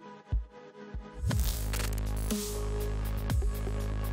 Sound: electronic Sounds

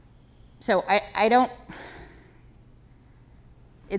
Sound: sighing

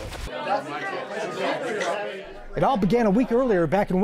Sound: people chattering

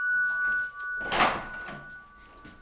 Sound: doorbell

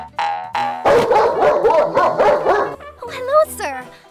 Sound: bark

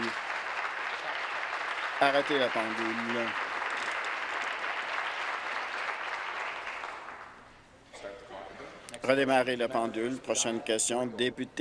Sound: applause

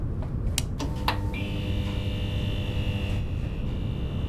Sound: eclectic humming

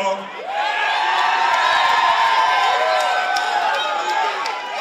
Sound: crowd cheering

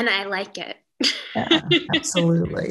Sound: laughs

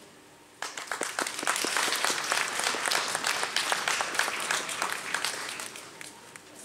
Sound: applause

